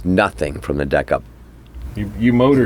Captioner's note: cockpit Room Tone